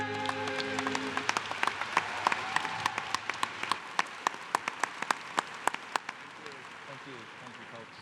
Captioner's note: applause